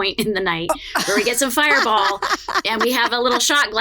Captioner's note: laughs